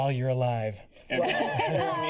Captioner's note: laughter